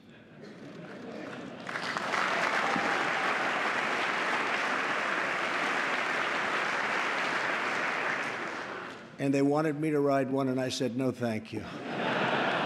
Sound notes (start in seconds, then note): 2.1 laughter; 3.9 applause